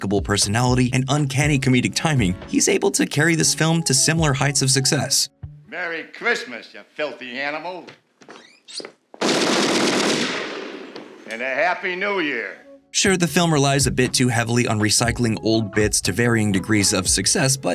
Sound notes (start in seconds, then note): 9.2 gunfire